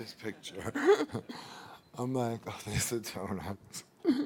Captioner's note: laughing